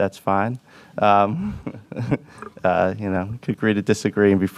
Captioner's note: laughs